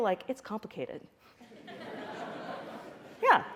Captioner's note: laughter